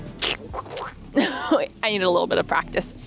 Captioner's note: Donald Duck impression; laughing